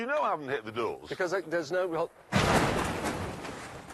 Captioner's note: clattering